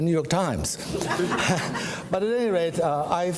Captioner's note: audience laughs